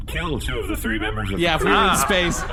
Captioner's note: audience laughter